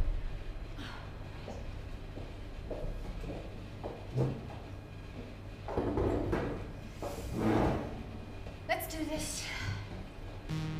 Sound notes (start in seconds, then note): 0.8 Ava sighs; 10.4 moody electronic music